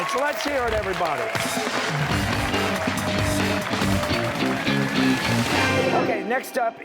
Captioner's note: cheers and applause